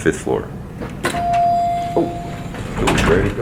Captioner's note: elevator dings